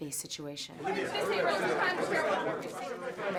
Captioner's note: chatter